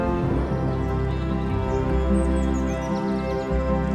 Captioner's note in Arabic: زقزقة طيور